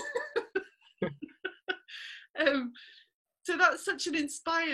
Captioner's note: laughter